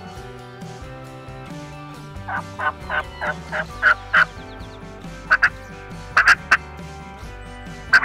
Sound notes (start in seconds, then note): 2.6 imitating turkey gobbling